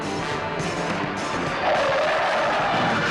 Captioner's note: tires squealing